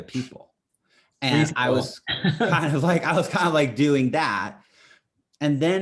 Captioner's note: laughs